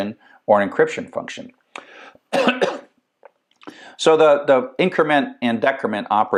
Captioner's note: cough